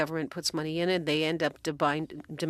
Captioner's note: speaking french